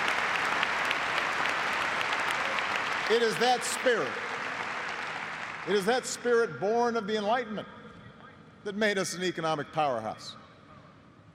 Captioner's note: applause